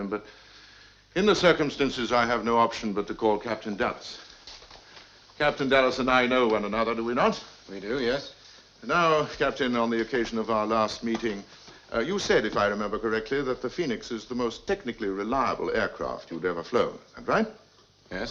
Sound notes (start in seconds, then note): none